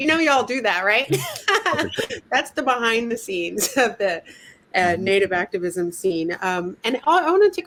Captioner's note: laughter